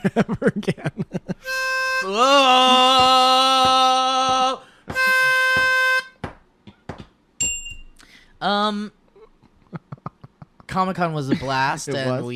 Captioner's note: ding